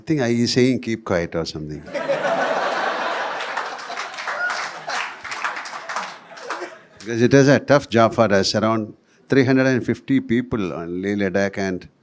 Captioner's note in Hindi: तालियाँ